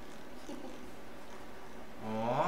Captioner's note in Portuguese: risos